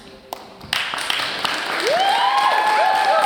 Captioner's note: applause